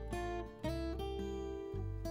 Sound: none

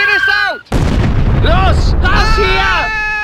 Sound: explosion; yelling

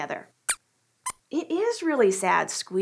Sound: squeaks squeaks

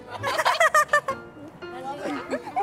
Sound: laughing

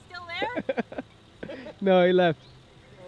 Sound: laughter

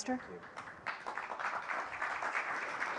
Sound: applause

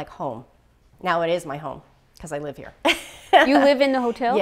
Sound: laughing

